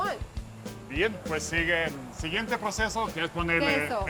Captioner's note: speaking Spanish